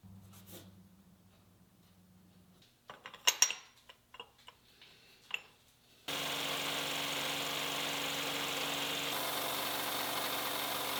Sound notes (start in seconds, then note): 2.9 metals tapping; 6.1 machine whirring